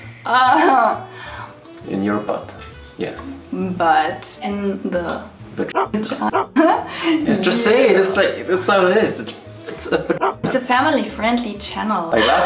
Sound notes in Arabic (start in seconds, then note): 5.7 لحاء الكلب; 10.1 لحاء الكلب